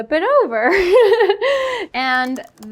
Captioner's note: laughing